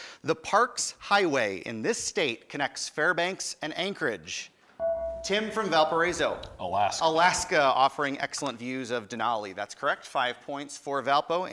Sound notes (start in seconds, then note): 4.8 buzzer